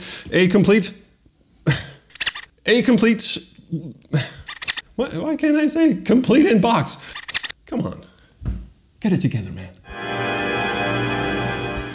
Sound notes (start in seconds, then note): 1.7 sigh; 2.1 rewind noise; 3.9 another sigh; 4.4 rewind noise; 7.1 rewind noise